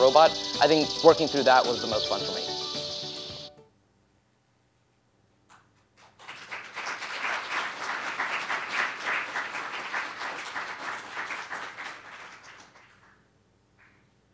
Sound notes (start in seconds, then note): 9.8 applause